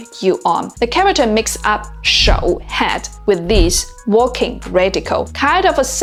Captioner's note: walking